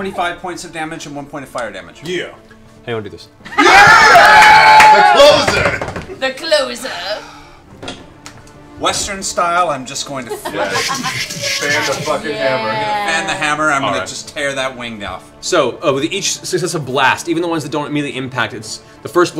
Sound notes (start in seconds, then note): 3.4 cheering